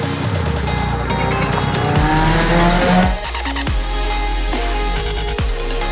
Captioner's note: car engine roaring; upbeat electronic music